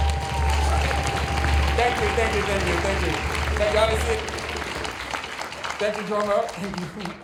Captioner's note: applause